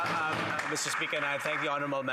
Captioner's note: applause